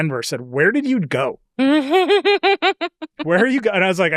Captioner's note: chuckles